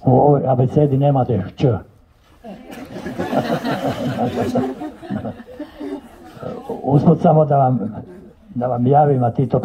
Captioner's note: Laughter to the allusion on an Eurosong hit